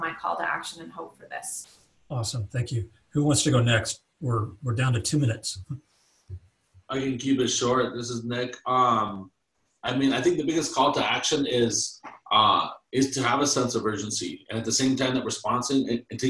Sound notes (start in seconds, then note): 4.2 chuckles